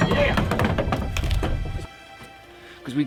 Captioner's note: cans fall